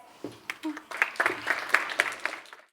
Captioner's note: applause